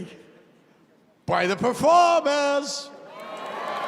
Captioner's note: cheers and applause